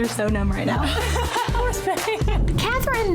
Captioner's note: laughing